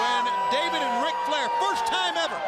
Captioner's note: crowd cheering